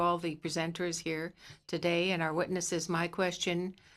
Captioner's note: speaking French